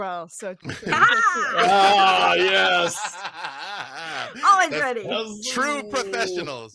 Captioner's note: laughing